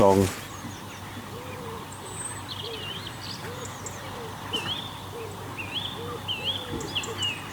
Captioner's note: birdsong. Chirps and hoots and squeaks